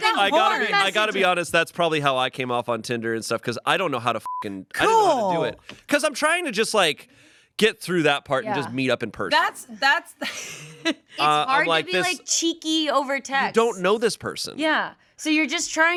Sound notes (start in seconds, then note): 4.2 beep; 10.2 laughs